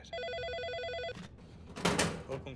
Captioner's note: telephone ringing